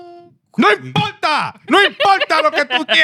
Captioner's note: speaking Spanish